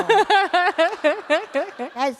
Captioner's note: laughter